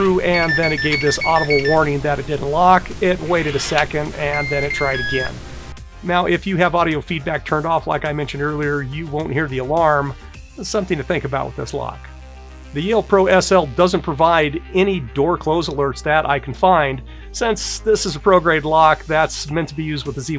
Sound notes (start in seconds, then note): 0.0 alarm beeping; 4.1 beeping